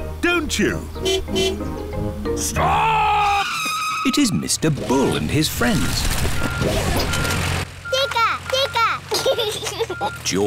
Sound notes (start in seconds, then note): 1.0 car honking; 2.5 tires screeching; 6.3 beeping; 9.0 giggles